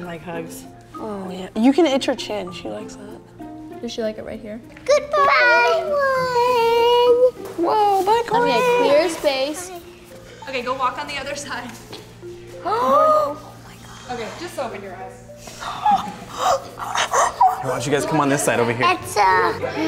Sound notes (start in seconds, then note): 13.3 gasps